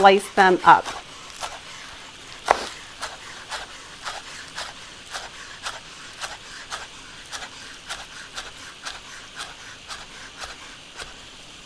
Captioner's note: knife chopping on cutting board